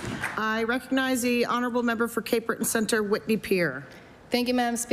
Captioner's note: applause